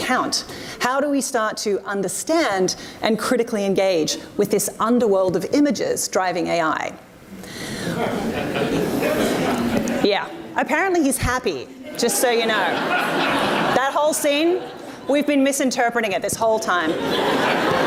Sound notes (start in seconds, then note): 7.8 audience laughs; 12.0 audience laughs; 16.8 audience laughs